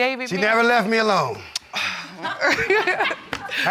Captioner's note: woman laughs